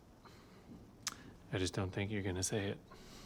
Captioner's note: clicks tongue